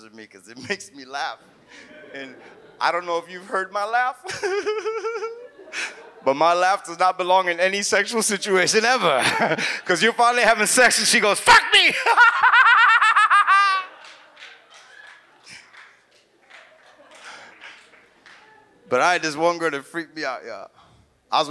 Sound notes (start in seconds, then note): 1.7 audience chuckles; 4.2 audience laughs; 4.3 laughs; 11.9 laughs; 13.8 audience laughs and applauds